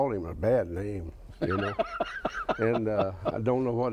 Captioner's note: laughs